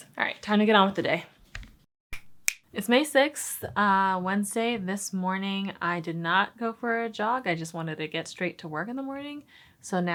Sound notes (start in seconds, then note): 2.4 snaps fingers